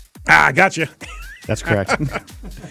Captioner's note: laughing